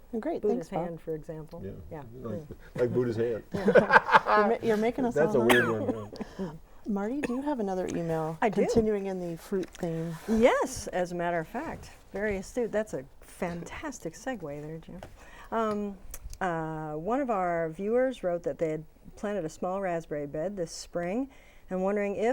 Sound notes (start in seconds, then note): 3.5 laughing